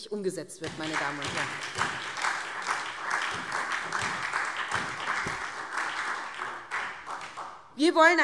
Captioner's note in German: Lebhafter Beifall SPD